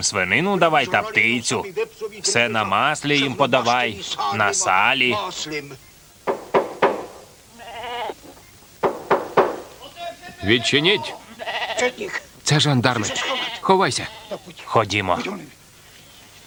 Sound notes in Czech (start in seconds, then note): 6.2 klepání na dveře